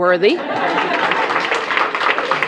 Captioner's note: applause